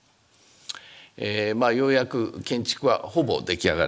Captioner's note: speaking japanese